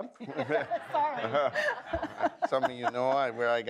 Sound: audience laughs

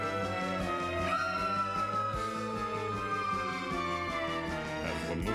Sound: scream

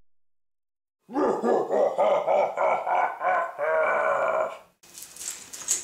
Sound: abysmal laughing

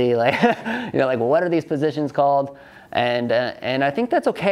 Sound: laughs

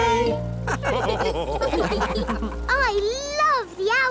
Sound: all laugh

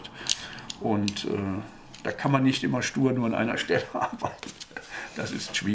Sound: laughs

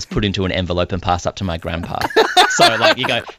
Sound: laughs

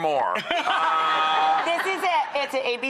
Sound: audience laughs

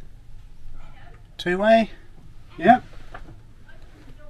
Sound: radio

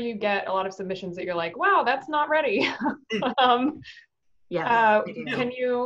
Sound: laughs

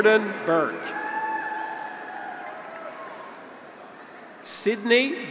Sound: graduates cheer

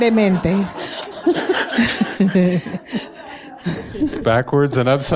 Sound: laughter

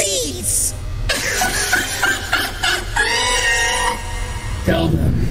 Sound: laughs

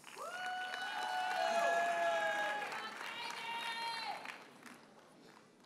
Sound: audience cheers and applauds

